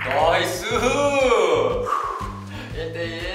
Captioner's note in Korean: 마음에서 우러나오는 날숨